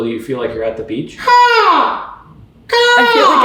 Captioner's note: seagull sounds